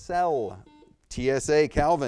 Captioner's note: buzzer beeps